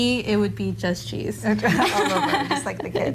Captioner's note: both Laughing